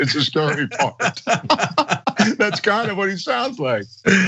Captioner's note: laugh